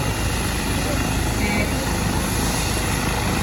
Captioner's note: truck honks